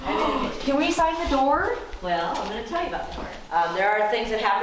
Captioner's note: gasp